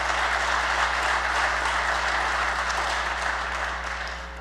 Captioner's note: applause